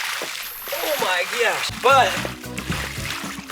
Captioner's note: slashes